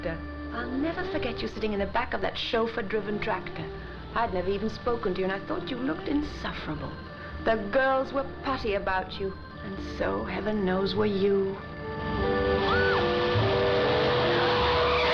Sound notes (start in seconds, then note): 11.7 squealing